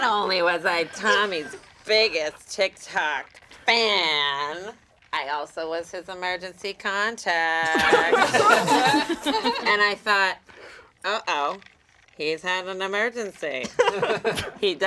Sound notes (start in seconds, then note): 7.7 all laugh